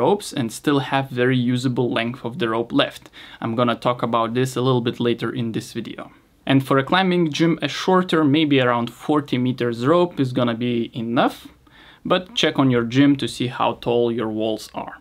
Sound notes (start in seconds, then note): none